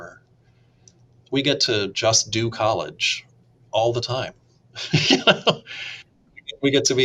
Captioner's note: laughs